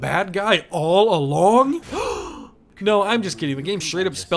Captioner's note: gasp